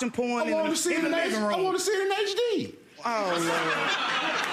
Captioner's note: audience laughing